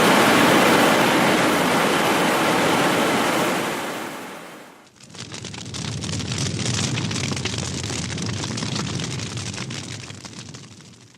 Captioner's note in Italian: Applauso